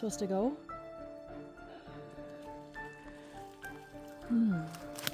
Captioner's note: sighs